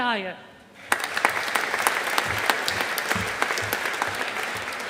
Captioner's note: audience applauding